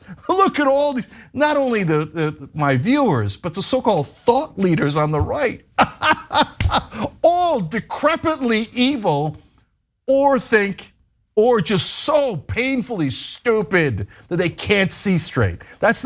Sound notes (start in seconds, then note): 5.7 laugh